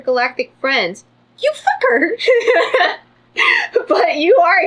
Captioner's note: laughs